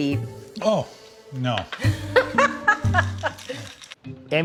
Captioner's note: laughs